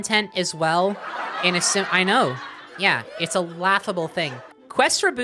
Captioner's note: sitcom laughter